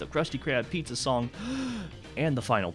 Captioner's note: deep breath